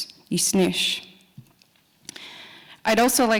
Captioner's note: speaking Nakoda language